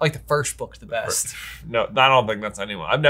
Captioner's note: scoffs